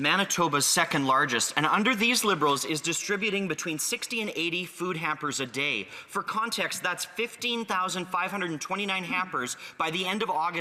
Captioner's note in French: voix de l'interprète